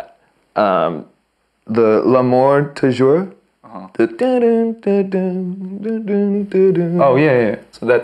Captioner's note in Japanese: 鼻歌